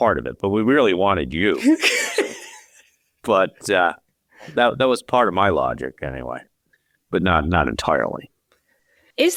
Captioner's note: chuckling